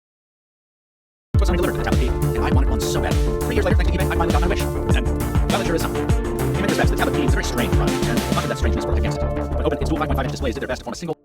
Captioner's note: sped up audio from Sony Tablet P Throwback video plays